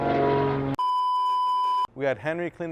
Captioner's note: long beep